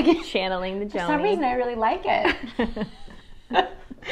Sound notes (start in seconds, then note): 2.3 both laugh